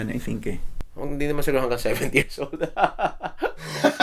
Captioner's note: laughs